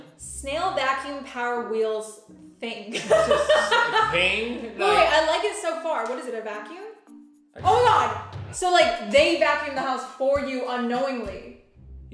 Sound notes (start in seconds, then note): 2.9 laughter